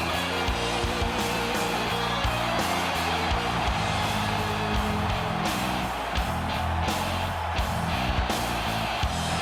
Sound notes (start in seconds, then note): 3.7 crowd cheering; 3.7 driving music continues